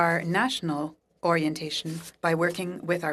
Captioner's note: speaking French